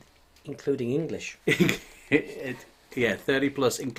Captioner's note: laughing